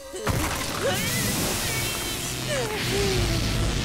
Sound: groaning

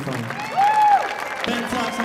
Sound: audience cheering

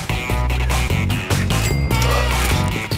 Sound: chuching

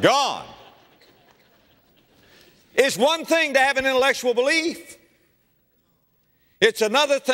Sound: laughter

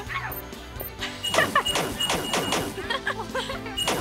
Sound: laughing

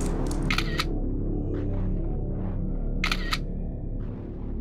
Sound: camera snapping

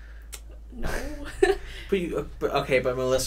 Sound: laughs

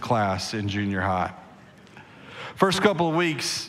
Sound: congregation laughing

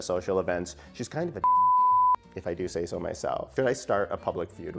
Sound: beep

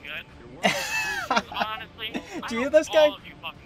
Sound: laughs

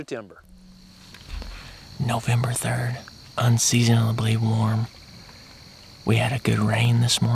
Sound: whispering

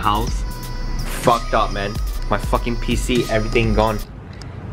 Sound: PC monitors turn off

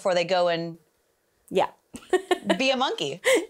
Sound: laughs

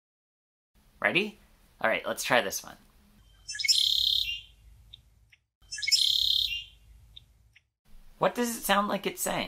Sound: red-winged Blackbird sound

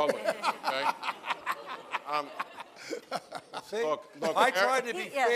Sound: laughter

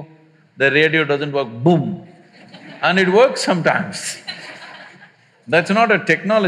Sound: laughter

